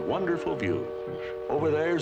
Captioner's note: ship horn